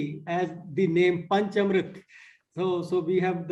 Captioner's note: non-english speech